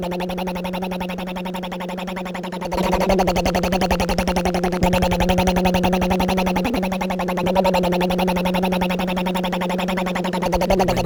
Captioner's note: rumbling motor